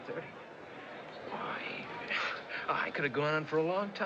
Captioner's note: chuckles